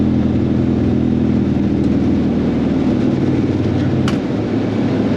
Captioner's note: plane taking off